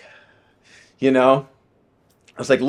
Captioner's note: sighing